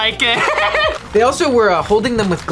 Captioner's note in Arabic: يضحك